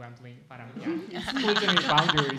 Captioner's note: laughing